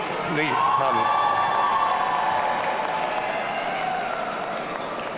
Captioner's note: audience cheering